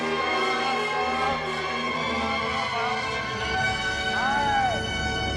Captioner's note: humming along to melody